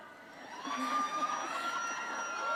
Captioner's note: laughter